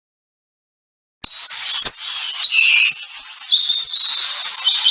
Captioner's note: birds chirping